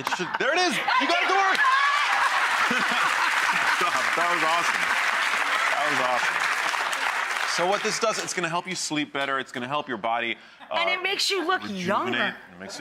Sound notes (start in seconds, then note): 0.9 audience applauds; 2.3 laughs